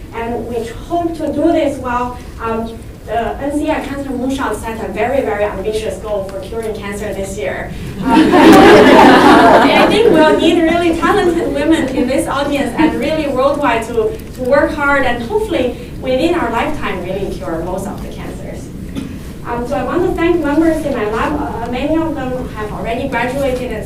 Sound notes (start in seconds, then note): 7.9 audience laughs